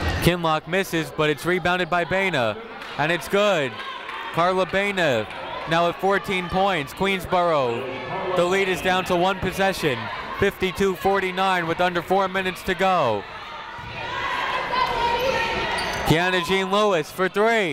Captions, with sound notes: Kinloch misses, but it's rebounded by Baena, and it's good. Carla Baena now at 14 points. Queensborough. The lead is down to one possession. 52-49 with under four minutes to go. (people shouting in the crowd) Keyanna Jean-Louis for three.